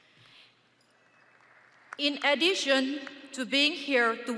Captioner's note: audience applauding